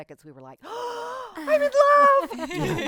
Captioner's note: gasp